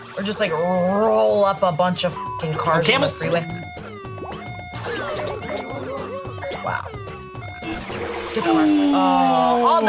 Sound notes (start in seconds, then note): 2.2 beep; 3.3 siren whooping